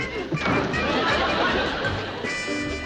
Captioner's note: door slams